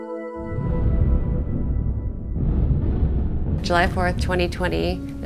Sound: fireworks exploding

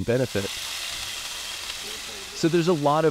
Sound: pan sizzling

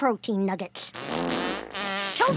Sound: farting

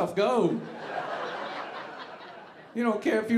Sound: audience laughing

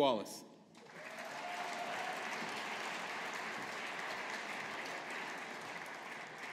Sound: audience applauding

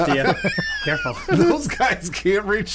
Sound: wheezing

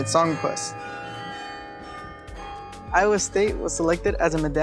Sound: carillon rings

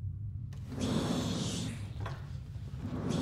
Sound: door opening

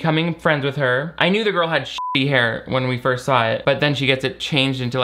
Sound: beep

